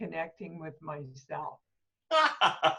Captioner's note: laughter